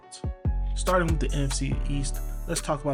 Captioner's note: voiceover